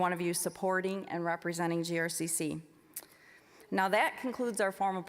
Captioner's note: none